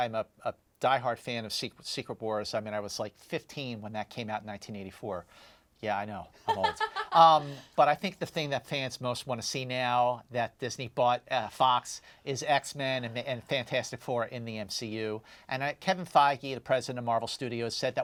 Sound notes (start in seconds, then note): 6.4 laughs